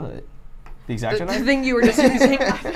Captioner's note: laughs